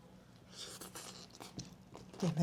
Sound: slurp

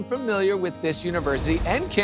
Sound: graphics whoosh

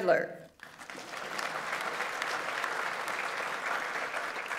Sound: audience applauds

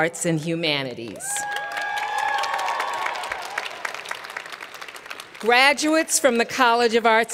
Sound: cheers and Applause

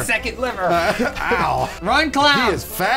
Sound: laughing

